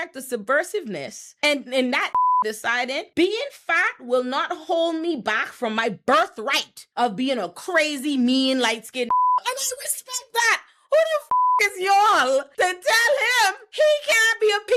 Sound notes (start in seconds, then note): 2.1 beep; 9.1 beep; 11.3 beep